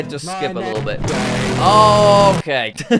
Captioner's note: extreme distortion